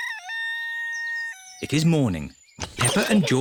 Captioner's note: rooster crows